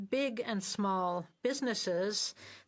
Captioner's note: speaking French